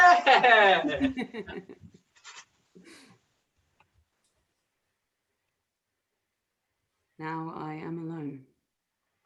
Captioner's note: cheering